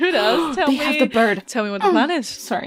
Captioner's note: gasps; laughs